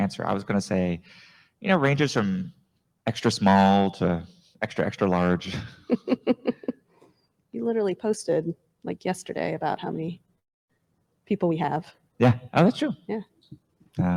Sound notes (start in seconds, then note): 5.5 laughs